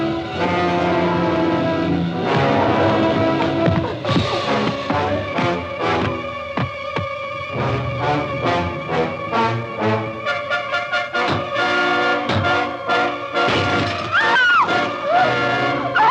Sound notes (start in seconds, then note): 13.4 rock bangs against window. glass shatters